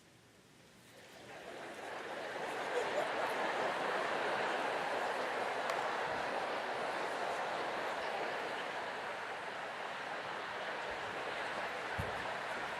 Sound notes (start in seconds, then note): 1.7 crowd chattering